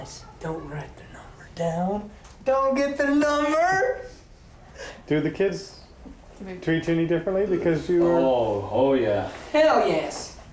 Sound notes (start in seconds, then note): none